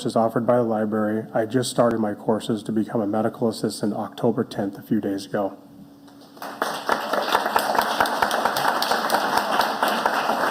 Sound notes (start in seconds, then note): 6.3 audience applauding